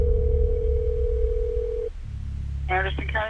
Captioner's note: phone line ringing